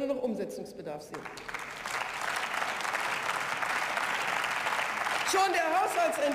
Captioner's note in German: Beifall